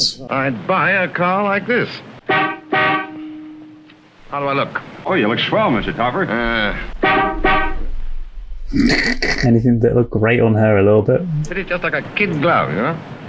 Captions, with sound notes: I'd buy a car like this. (horn blares) How do I look? - Oh, you look swell, Mr. Topper. (horn blares) Fit it just like a kid glove, you know.